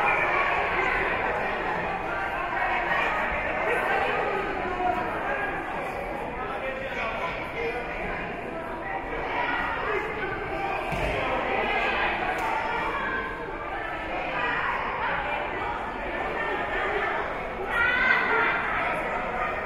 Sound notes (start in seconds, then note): 2.1 spectators and teams chattering